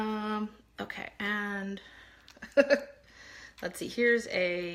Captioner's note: laughs